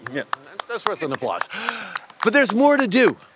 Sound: applause

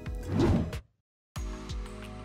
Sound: whooshing; gentle music

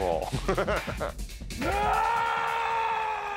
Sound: laughing; roaring

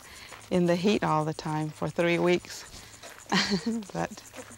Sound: laughs

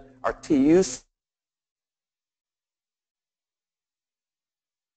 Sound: sound cuts out

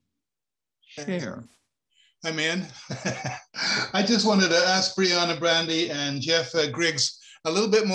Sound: chuckle

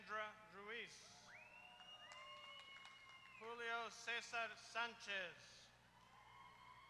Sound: applause; applause

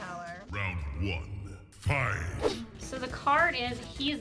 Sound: deep Voice

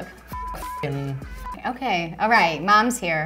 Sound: beep; beeps

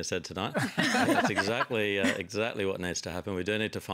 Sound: laughter

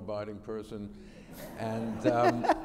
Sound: laughter

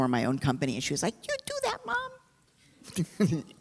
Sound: imitating a child; chuckles

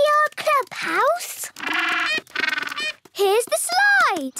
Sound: honking

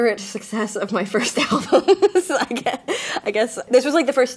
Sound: laughs

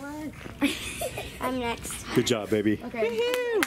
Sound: people laughing

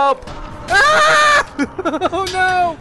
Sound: screaming

